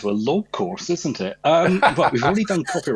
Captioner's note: laughter